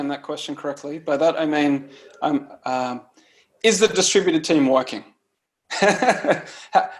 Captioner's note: laughs